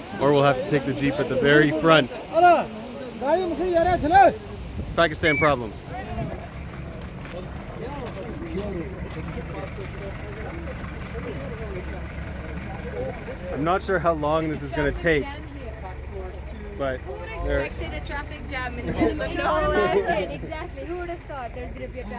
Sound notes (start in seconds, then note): 2.8 man shouts in foreign language; 8.2 engines idling